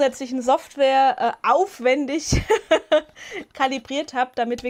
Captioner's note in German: Gelächter